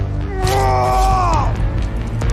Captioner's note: screams